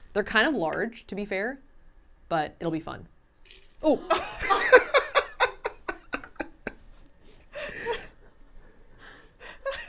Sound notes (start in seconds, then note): 4.1 laughs